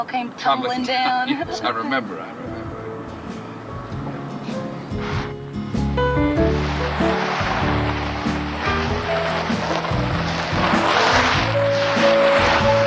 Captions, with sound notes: came tumbling down? - Tumbling (chuckles)... Yes, I remember, I remember. (light music) (gravel crunching)